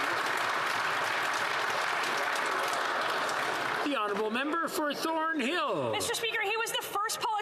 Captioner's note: some Applause